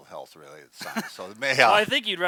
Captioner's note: both laughs